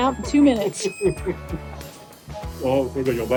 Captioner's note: laughing